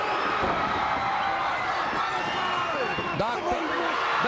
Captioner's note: crowd cheering